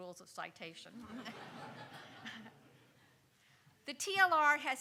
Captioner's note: audience laughing